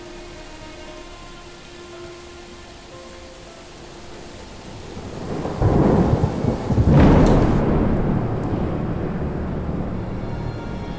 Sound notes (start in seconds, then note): 0.2 soft music; 3.8 storm raging